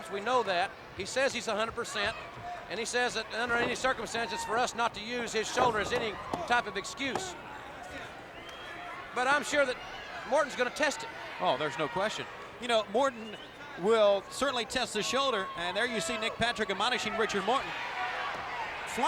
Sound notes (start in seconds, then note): 5.2 hands thudding; 5.3 body thudding